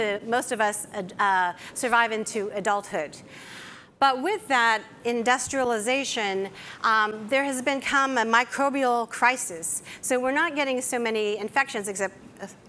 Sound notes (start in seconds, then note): none